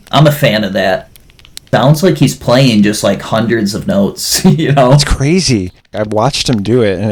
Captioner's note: laughs